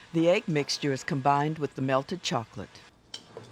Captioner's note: voiceover